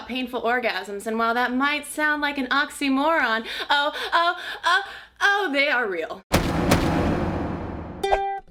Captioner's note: impact sounds